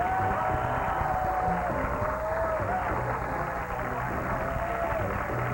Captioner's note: cheers and applause